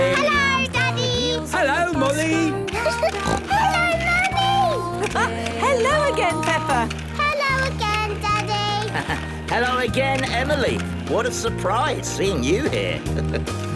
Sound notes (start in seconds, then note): 2.9 giggling and snorting; 5.2 laughing; 8.3 laughing; 12.4 chuckling